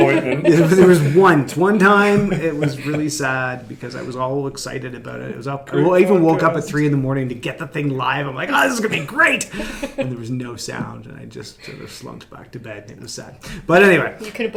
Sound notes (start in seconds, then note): 8.5 laughing